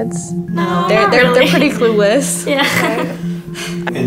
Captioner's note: laughter